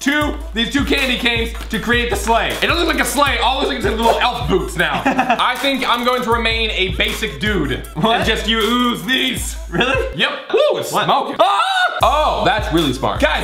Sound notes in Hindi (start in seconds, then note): 4.5 हंसता है; 11.5 चिल्लाता है